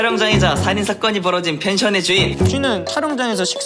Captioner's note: has a Chungcheong-do accent, he's in no rush